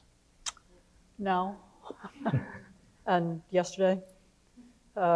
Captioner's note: laughs